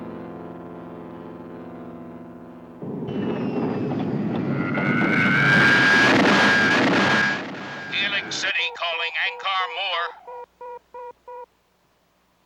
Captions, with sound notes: (zooming) [Man Over Radio] Helix City calling Ankar Moor.